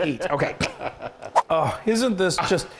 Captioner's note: screen whooshes